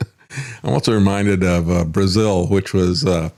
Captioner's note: laughs